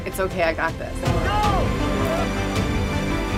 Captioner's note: cheers